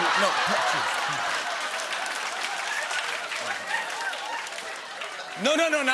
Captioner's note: laughter and applause